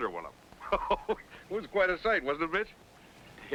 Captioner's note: man laughing